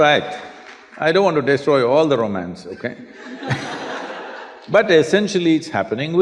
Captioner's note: laughter